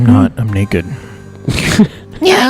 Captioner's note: laughs